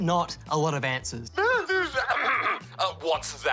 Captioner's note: laughs nervously, clears throat